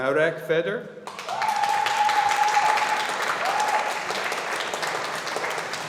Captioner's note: audience applauding